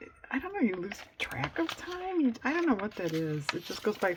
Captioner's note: none